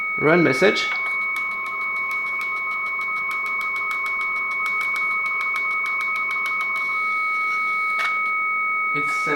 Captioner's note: telex FSK tones